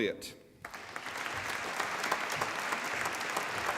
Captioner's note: applause